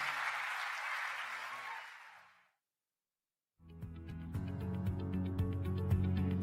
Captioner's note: applause